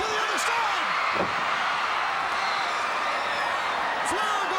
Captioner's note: crowd cheering